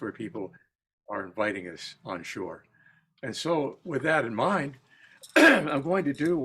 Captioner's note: cough